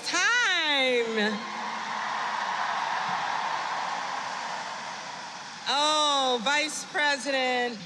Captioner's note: applause